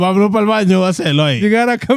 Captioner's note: speaking In Foreign Language